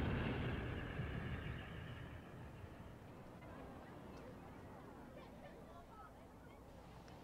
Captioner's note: explosions end